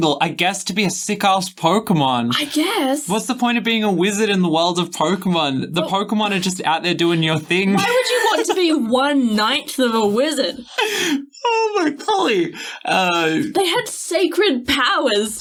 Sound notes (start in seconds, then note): 10.5 laughing